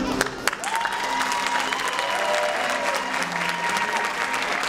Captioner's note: applause and cheering